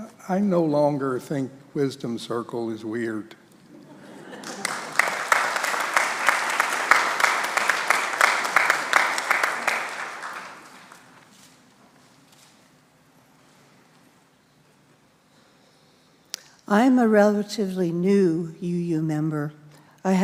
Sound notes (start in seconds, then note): 3.8 congregation laughs; 4.2 congregation applauds